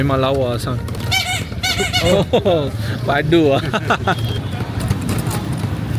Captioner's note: horn; laugh